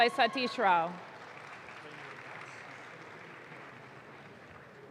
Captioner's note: audience claps